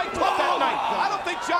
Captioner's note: Carlito bellowing